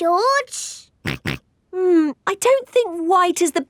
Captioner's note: snorts